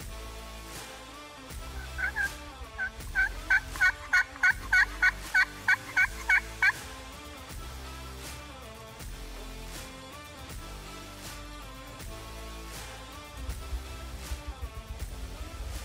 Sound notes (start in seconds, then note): 3.4 imitating gobbling